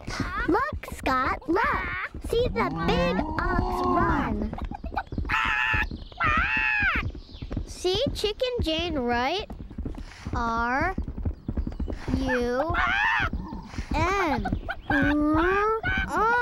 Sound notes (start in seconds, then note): 4.5 squawking hysterically